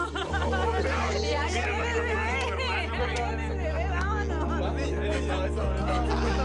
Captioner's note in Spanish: Risas